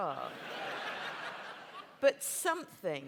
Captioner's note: laughter